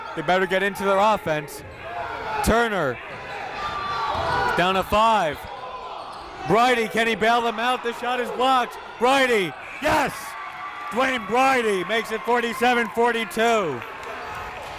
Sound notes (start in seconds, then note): 10.1 crowd cheering